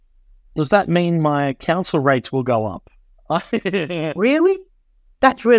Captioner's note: laughs